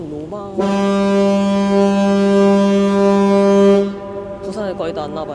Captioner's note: the sound of a boat